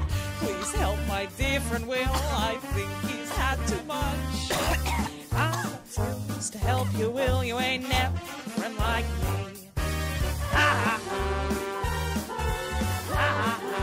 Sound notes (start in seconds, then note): 4.5 will is still choking; 10.2 evil laughter